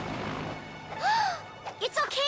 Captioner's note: gasps